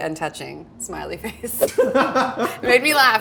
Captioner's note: everyone laughing